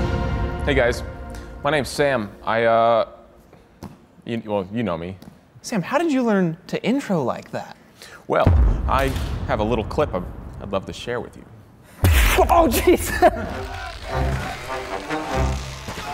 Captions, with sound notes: Hey guys, my name's Sam. I uhhh... well.. you know me. Sam, how did you learn to intro like that? Well, I have a little clip I'd love to share with you. (Action sound effect) Oh geez!